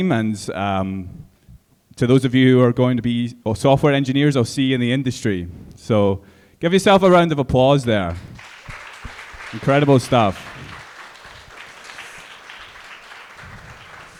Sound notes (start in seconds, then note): 8.0 audience clapping